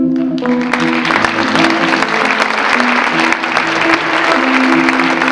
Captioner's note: audience clapping